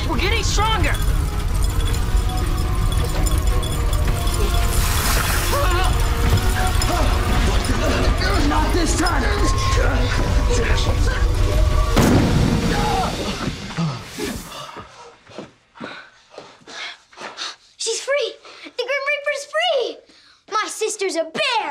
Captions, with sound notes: Keep going. We're getting stronger. (SIZZLES) Ah! (GRUNTS) Not this time. (EXPLODES) (GRUNTS) (ALL PANTING) She's free. The Grim Reaper is free.